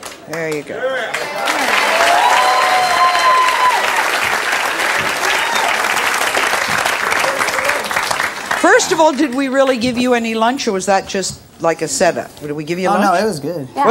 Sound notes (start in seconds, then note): 0.8 audience cheers